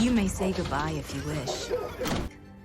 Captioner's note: Donavan coughing